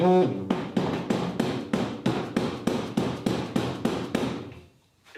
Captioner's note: hammer thumping